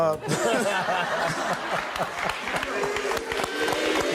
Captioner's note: laughing